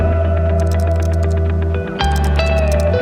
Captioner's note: typing